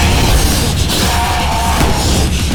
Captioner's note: explosioin